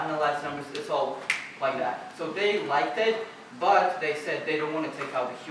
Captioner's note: snap